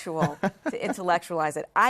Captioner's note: laugh